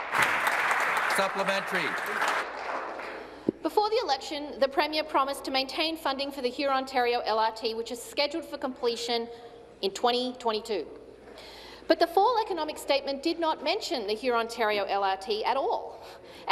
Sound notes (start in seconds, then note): 3.7 applause